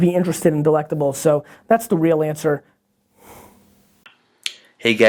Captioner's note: exhales loudly